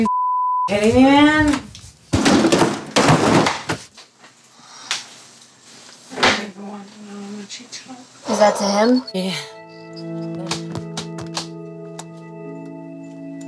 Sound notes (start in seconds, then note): 2.1 drawers slam; 10.5 melancholy music